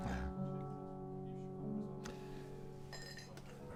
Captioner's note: Bill chuckles